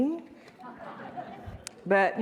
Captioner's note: audience laughing